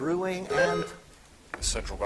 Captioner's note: buzzer chiming